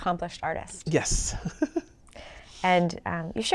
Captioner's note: chuckles